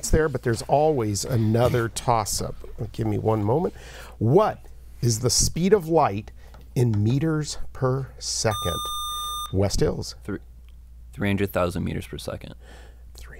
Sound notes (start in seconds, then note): 8.5 buzzer